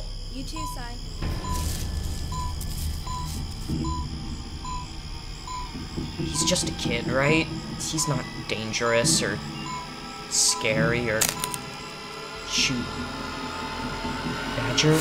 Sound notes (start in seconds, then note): 0.8 beeping